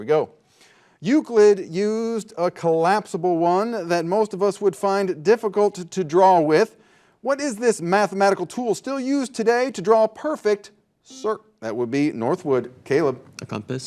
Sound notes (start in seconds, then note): 9.9 buzzer buzzing